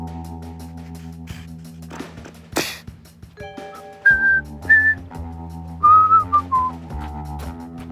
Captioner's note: suddenly beatbox and whistling